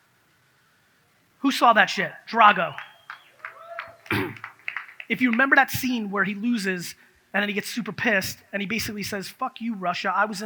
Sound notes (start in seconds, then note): 2.5 audience claps